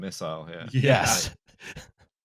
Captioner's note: laughing